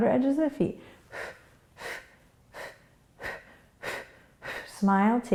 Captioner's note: quick breaths